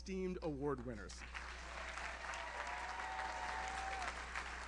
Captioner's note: audience cheers; audience applauds